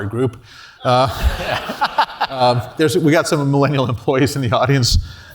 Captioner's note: laugh